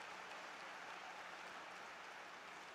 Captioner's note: applause